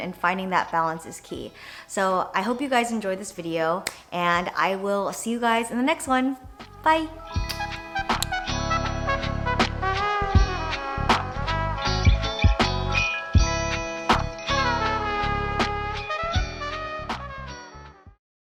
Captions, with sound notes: and finding that balance is key. So I hope you guys enjoyed this video, and I will see you guys in the next one. Bye (jazz music) (kissing sound)